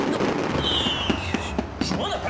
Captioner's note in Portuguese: rojão explodindo